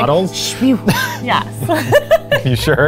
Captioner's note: laughs